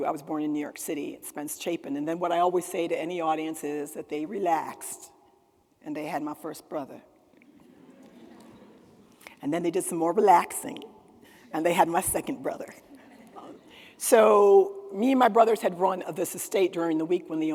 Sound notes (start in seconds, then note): 7.4 attendees laughing